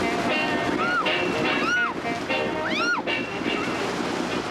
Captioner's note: Dot shrieking